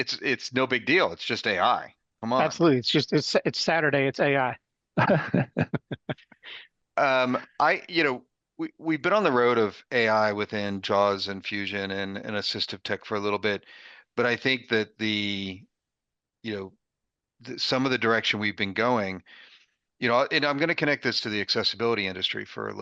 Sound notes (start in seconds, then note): 5.0 chuckling